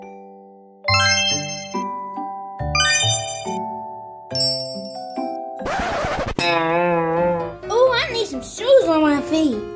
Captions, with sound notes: (twinkling) Oh, I need some shoes on my feet.